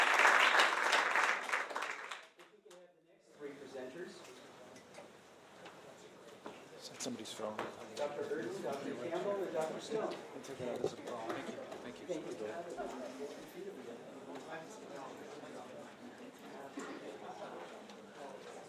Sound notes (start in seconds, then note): 3.7 applause